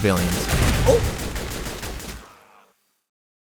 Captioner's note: explosion; complete silence